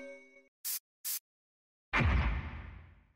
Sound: sprays

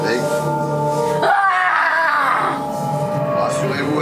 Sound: scream

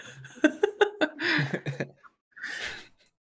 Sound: laughter

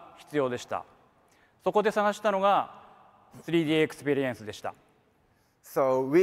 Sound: speaks in foreign language

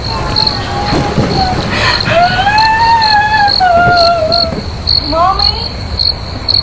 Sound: still crying

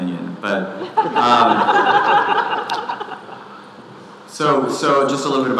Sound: audience laughing

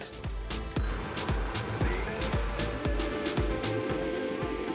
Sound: blender whirring

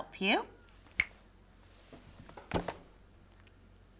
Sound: snapping

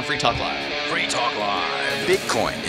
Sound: voice-over

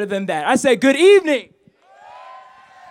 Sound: applause

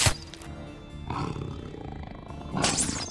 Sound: annoyed Growl

